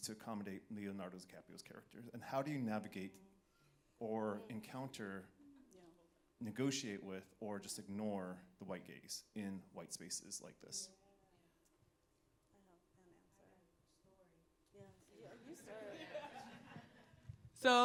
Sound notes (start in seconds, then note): 11.4 panelists faintly murmuring; 15.3 audience laughing